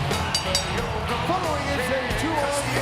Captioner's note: bell dings